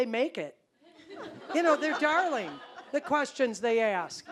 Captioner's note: audience laughing